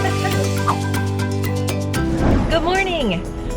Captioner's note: laughing; air whooshes; upbeat music